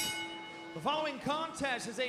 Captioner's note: bell ringing